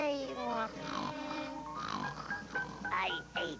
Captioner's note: yawn; snore